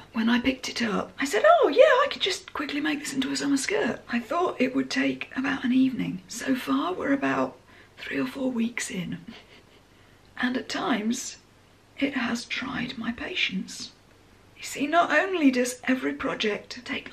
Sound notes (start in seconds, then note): 9.3 chuckles